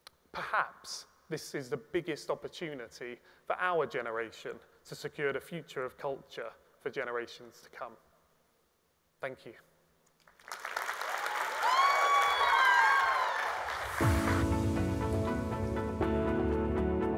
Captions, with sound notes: Perhaps this is the biggest opportunity for our generation to secure the future of culture for generations to come. Thank you. (audience applauds and cheers) (bright music)